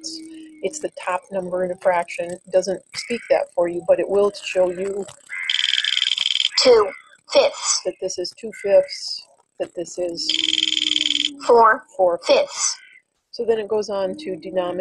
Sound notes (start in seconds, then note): 4.5 wheel clicking; 6.6 voiceover; 11.6 voiceover